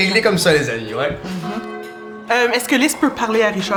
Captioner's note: bell rings